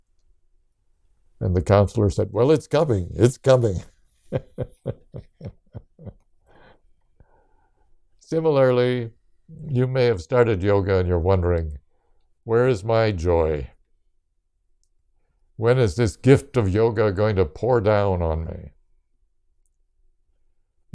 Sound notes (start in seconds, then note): 4.3 laughs